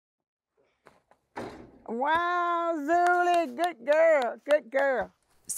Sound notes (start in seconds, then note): 2.0 basketball thudding